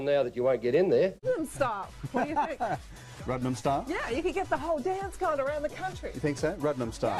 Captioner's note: chuckles